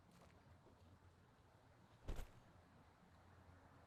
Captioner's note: thud